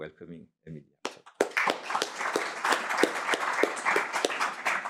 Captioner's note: applause